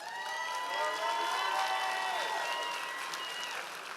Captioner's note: audience applause